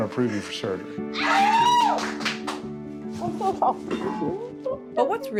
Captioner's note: cheer